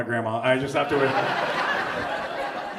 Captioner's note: audience laughs